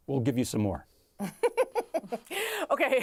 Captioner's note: laughing